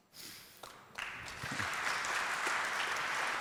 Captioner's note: applause